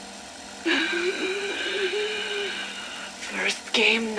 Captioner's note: breathes heavily